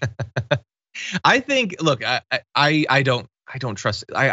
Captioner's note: laugh